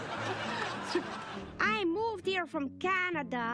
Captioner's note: canned laughter